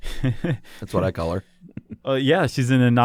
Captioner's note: laughs; chuckles